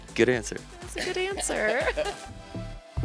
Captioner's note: laughs